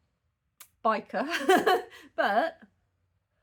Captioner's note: laughing